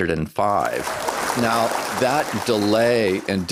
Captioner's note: applause